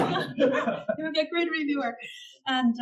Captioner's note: laugh